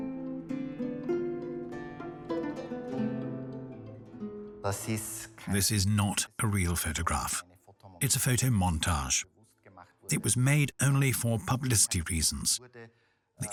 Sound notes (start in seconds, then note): 4.7 speaks in foreign language